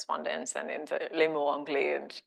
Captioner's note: speaking French